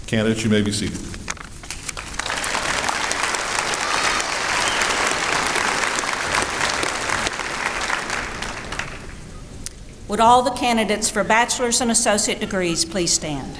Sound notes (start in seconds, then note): 1.9 applause